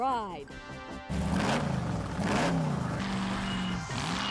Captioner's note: engine revs